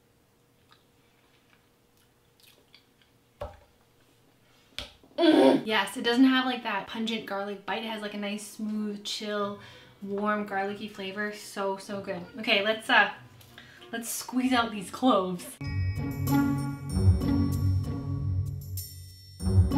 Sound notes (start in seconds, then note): 2.3 lips smacking; 5.2 moans; 15.6 playful music